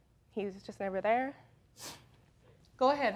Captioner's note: sniffles